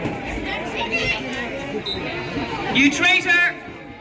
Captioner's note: whistle blows